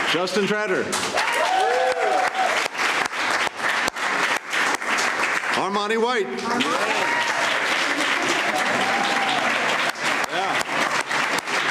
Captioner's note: applause